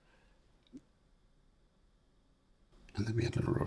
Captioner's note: silence